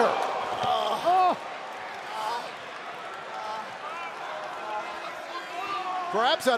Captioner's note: crowd chatter